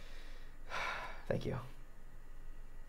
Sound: sighing

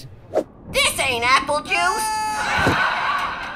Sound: canned laughter

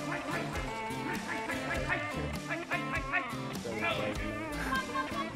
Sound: muffled yelling

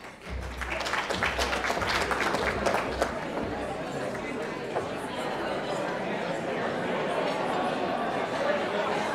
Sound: applause

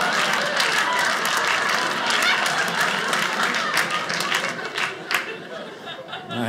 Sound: audience laughing; audience applauding

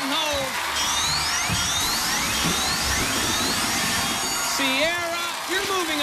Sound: alarm sounding

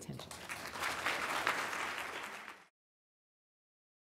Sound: audience claps

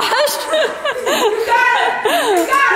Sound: laughing

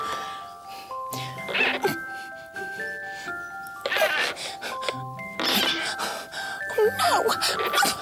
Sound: creak! Creak! Creak!

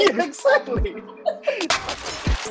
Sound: both laugh; lively electronic music

